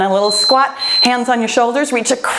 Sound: timer beeps

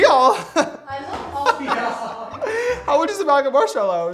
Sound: laughter

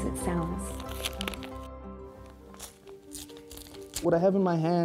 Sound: envelope ripping

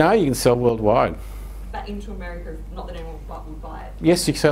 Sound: woman's Voice

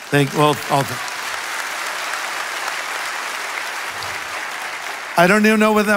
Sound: congregation applauds

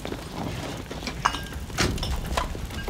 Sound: truck door closes

